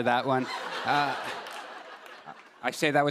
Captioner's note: laughter